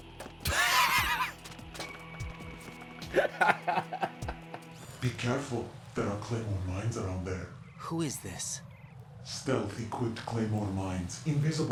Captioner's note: laughs